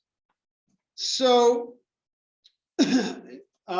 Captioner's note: cough